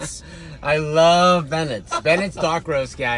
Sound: laughs

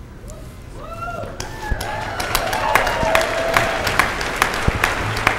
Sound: cheers and applause

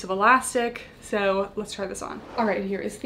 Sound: air whooshes

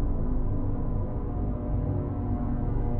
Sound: none

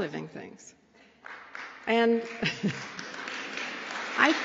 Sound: applause

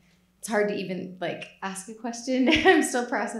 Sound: laughs

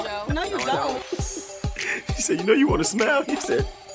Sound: laughing

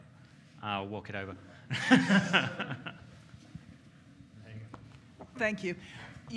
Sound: laughing

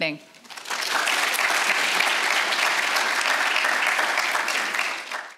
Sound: audience applauds

